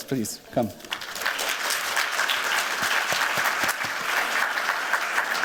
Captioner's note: applause